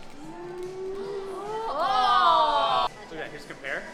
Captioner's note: oohs